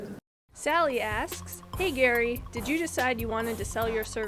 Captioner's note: voiceover